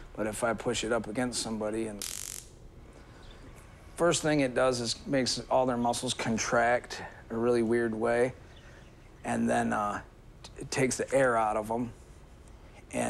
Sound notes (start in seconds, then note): 2.0 electroshock weapon buzzes